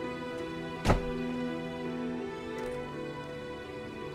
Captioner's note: door slams